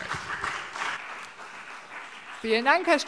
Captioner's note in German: Beifall CDU und BÜNDNIS 90/DIE GRÜNEN